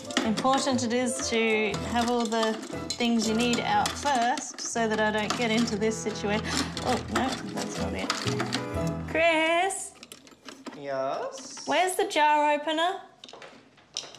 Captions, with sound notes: important it is to have all the things you need out first so that I don't get into this situa— (GASPS) Oh, no. That's not it. Chris? Yes? Where's the jar opener?